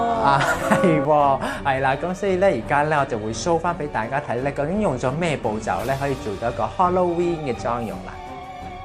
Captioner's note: laughs